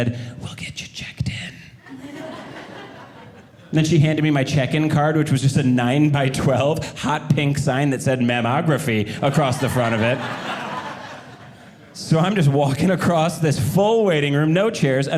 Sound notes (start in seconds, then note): 9.2 audience laughing